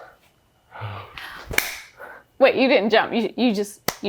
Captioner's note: claps hands